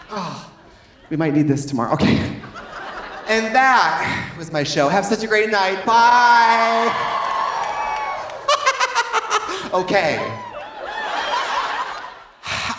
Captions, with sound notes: Oh, we might need this tomorrow, okay. (audience laughing) And that was my show, have such a great night, bye! (audience cheering) (audience applauding) (laughing) Okay. (audience laughing)